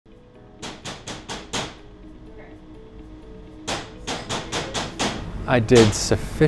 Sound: tapping sound

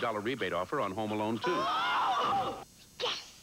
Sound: both screaming

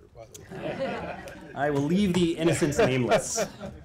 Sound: laughter

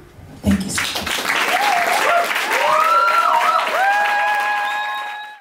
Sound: cheering

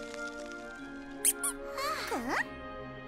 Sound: squeaks

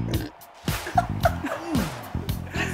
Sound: laughing

